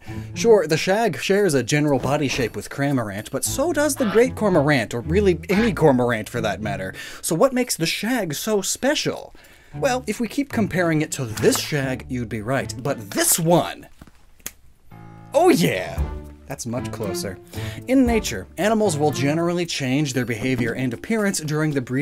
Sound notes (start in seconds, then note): 14.2 finger snap; 16.8 tango music